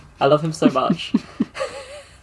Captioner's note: laughs